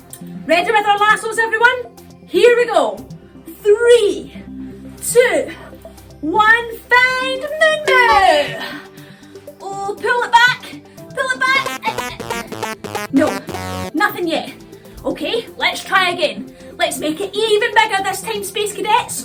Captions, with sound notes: Ready to find our lassos everyone. Here we go! Three. Two. One. Find Moon Moo! Ooh. Pull it Back. Pull it back. [ELECTRONIC WARBLE] Nope, nothing yet. Okay, let's try again. Let's make it even bigger this time space cadets.